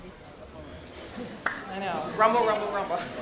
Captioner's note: audience murmurs